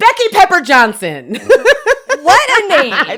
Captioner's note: laughs